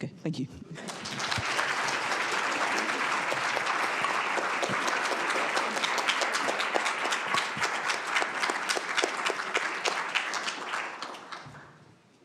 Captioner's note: applause